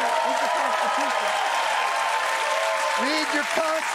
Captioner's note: cheering